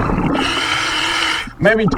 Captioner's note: water burbling; regulator hissing